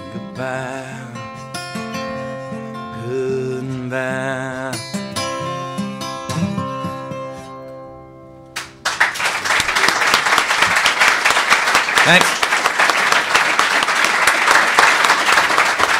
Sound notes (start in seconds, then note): 8.5 applause